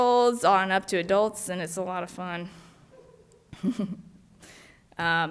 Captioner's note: laughs